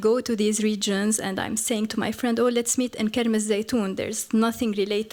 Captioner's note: non-english